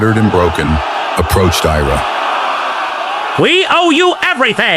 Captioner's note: voice low, hollow